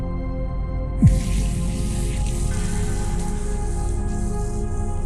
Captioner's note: water running